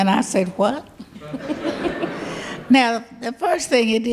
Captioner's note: audience laughs